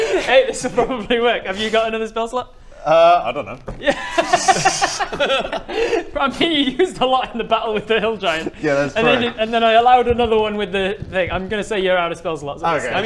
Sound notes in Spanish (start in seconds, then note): 3.8 risa